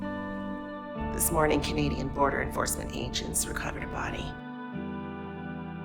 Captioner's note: voiceover